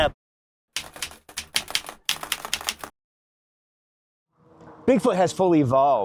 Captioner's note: keyboard keys clicking